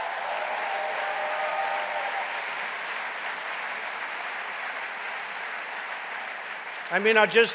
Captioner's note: applause